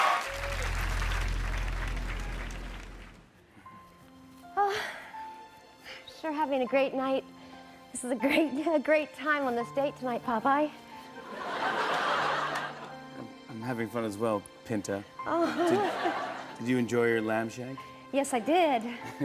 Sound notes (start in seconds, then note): 0.0 cheers and applause; 0.2 soft music plays; 4.6 sighing; 11.2 laughter; 15.5 chuckling